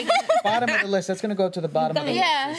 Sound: chuckling

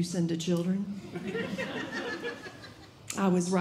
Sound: audience Laughing

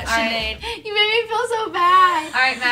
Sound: laughs

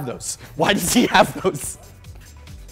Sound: laughing

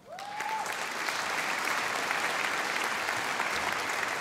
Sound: audience applauding

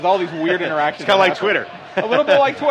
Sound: laughs

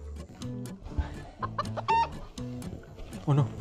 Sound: chicken clucking noises

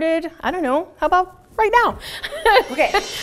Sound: chuckles

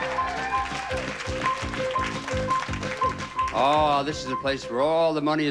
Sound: audience applauding

